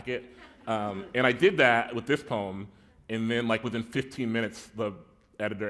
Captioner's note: chuckle